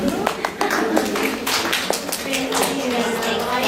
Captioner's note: applause